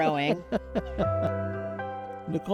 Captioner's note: chuckling